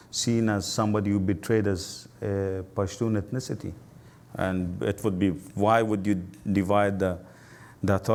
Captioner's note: voice low